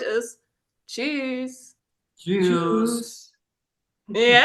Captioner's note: in German